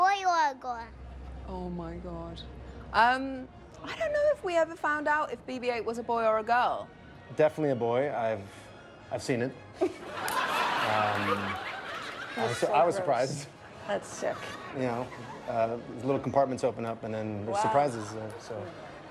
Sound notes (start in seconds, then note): 9.7 laughter